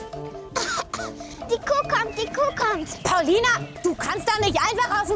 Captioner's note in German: Sie hustet